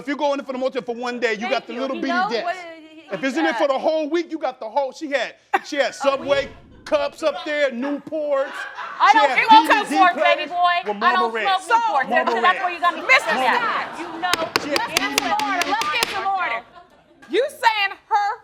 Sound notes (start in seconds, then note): 14.3 banging gavel; 15.0 both yelling over each other